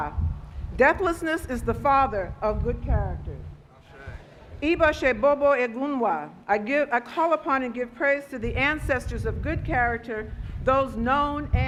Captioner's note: speaking Foreign Language